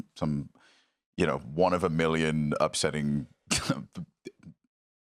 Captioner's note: laughs